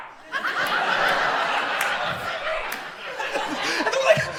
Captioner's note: audience laughs